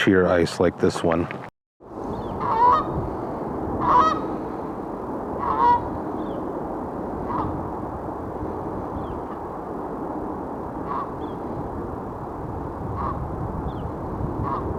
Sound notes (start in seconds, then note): 2.1 bird Calls